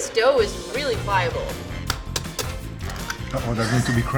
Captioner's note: egg cracking